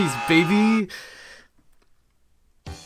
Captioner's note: inhale